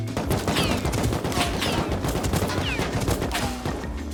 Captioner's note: bullets whizzing by and hitting